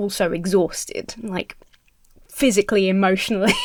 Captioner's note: Emma chuckles